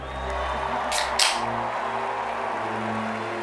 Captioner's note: beer can cracks open